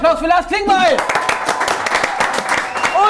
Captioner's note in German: Jubel